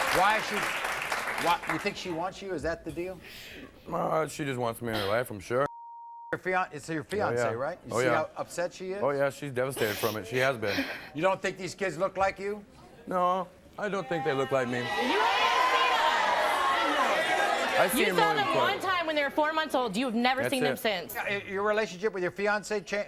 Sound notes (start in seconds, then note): 5.7 beep